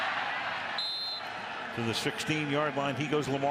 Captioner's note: whistle